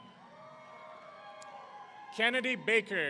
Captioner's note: audience cheering